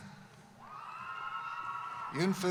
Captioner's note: cheering